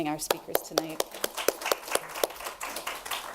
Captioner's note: applause